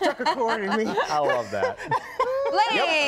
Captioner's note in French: laughter